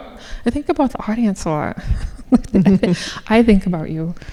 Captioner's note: laughing